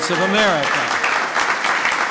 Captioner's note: applause